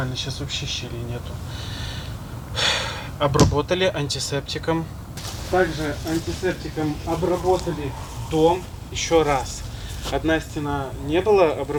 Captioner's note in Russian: вздыхает